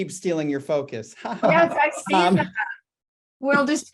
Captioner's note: chuckles